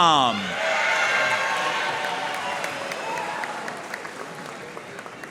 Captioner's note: audience cheering and applauding